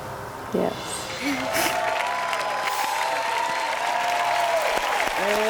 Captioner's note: audience cheers and applauds